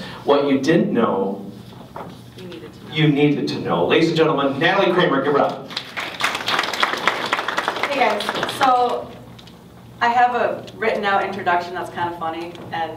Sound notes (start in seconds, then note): 5.4 applause